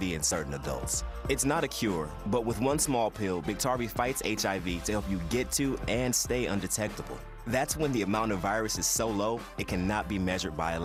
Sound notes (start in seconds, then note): none